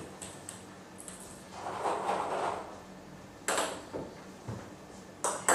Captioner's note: balls ping pong hitting continues